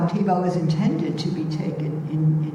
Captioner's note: none